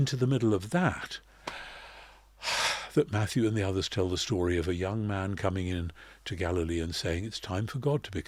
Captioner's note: sigh